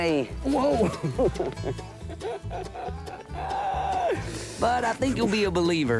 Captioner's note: laughter